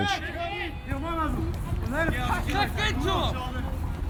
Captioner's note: players shouting